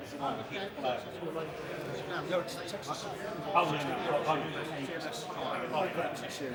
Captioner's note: people Chattering